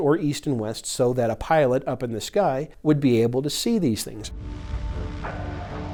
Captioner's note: airplane engine roaring; tense music